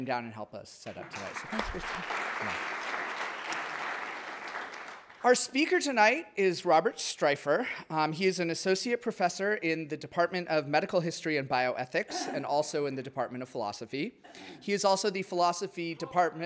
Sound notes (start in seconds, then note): 2.9 audience applauding